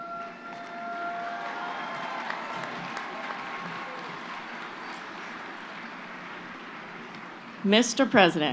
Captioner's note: applause